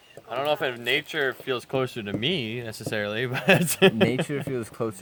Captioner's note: laughter